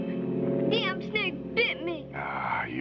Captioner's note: sobbing